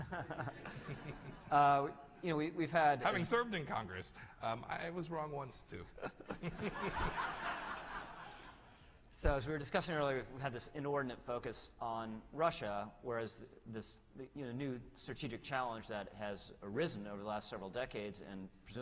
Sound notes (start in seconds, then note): 0.0 laughter; 5.9 laughter